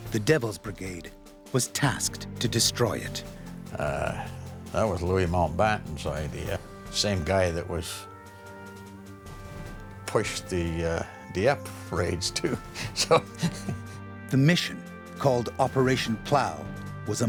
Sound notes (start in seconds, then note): 12.3 laughs; 14.5 voiceover